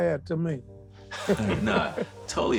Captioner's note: laughter